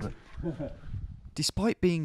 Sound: laughing

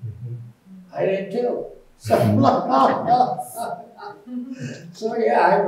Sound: chuckling

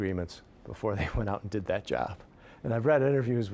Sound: chuckling

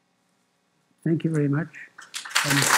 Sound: applause

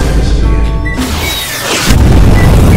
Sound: bazooka noise

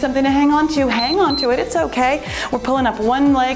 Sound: timer beeps

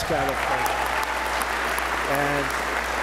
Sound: applause

